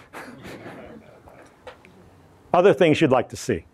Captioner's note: audience laughs